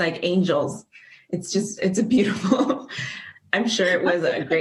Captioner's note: laughs